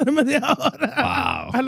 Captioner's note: speaking In Foreign Language